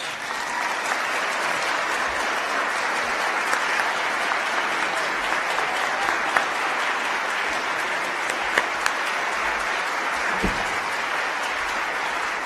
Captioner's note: applause